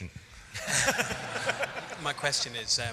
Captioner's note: laughing